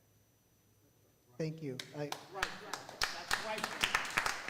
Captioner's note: crowd applauds